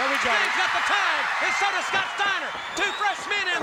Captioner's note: crowd cheering